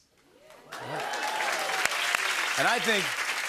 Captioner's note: cheering and applause